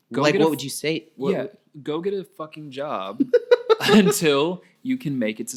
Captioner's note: laughing